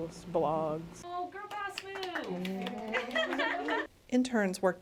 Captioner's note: applause